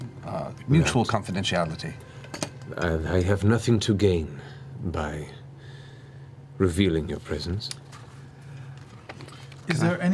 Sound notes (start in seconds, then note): none